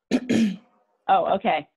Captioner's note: clears throat